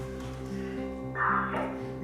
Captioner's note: radio crackles